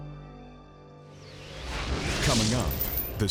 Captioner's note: light mysterious music; graphics whooshing